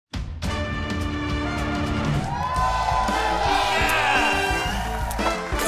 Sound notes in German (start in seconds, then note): 0.2 Dynamische Musik; 1.5 Jubel, Applaus